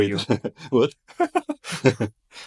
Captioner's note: laughs